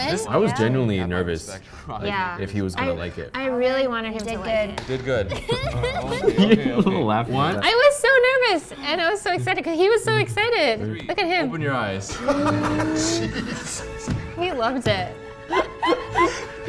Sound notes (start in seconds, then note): 5.3 laughing; 12.2 gasps; 15.4 laughing